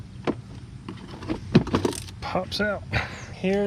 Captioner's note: plastic thumping